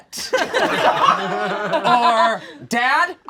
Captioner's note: all laugh